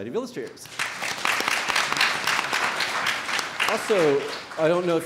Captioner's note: audience applauds